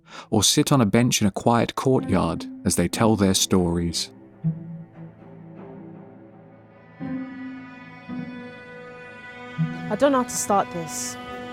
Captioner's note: voiceover